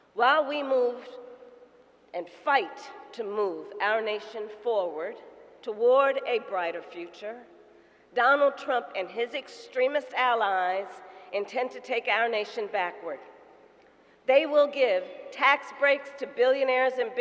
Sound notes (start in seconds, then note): none